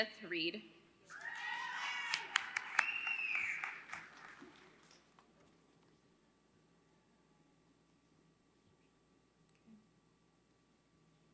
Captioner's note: applause